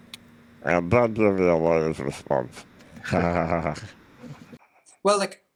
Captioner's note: laughs